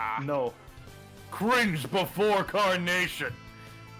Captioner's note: none